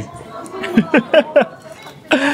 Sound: laughs

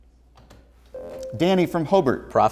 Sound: buzzer

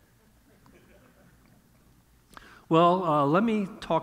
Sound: audience chuckling

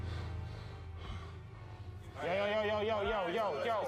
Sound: labored breathing

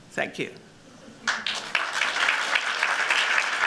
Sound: applause

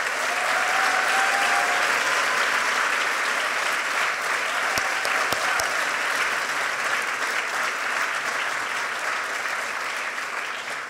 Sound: applause

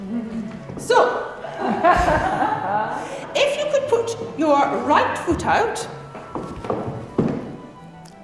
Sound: laughter in background

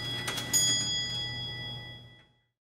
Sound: clock sounds die out

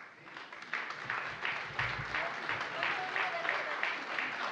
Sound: applause

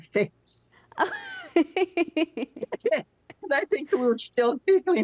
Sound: laughing

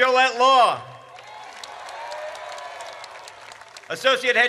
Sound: audience cheers

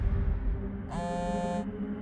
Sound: phone vibrates

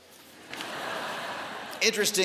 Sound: laughter

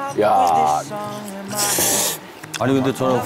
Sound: slurp

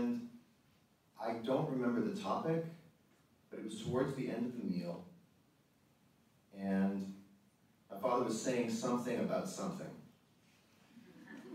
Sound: audience laughter

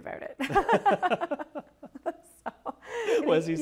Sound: both laugh

